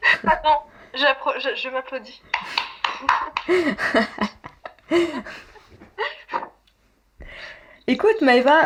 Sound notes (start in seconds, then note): 0.7 laughs; 4.9 applause and laughs